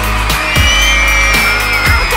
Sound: crowd screaming

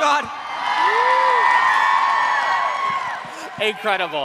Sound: cheering

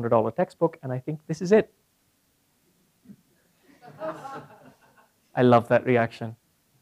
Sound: laugh

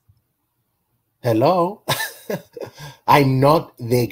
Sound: laughing

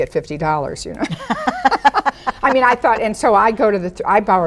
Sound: women laugh

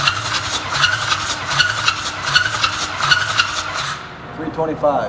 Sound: engine cranking

